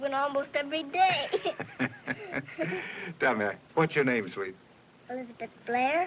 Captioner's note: laughing